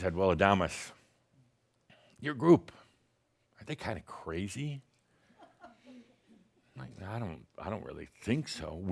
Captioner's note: someone giggles